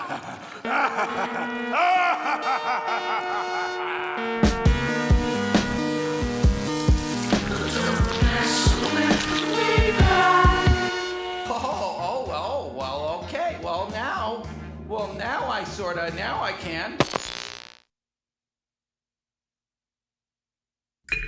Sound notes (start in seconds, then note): 0.0 evil laughter